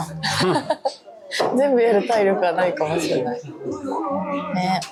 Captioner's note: laughs